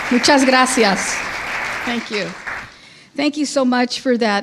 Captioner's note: speaking in foreign language